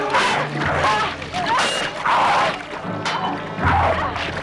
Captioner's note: raider growls; both grunting